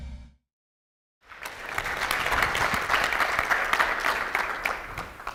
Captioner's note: audience applauds